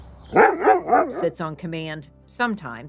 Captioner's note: Frankie barks playfully